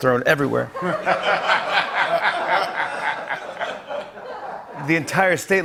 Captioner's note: laughter